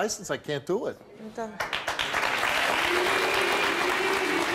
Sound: applauding

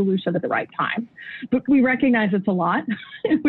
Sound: chuckles

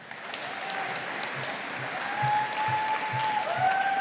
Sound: audience applauding

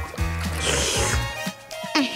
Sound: slurping

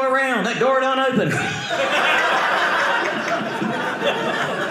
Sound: audience laughing

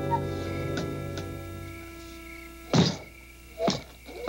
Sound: crickets chirping

